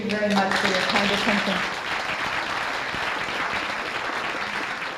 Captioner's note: applause